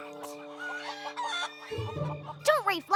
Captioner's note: clucking continues